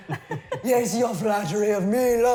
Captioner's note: laughing